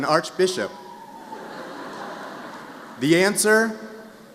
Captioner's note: laughter